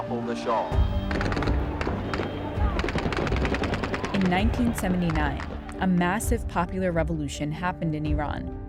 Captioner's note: soundbite of gunshots